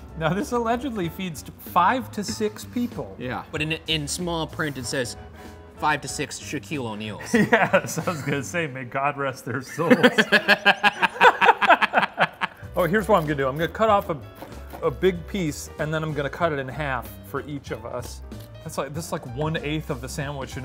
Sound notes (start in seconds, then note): 7.3 laughs; 9.6 laughing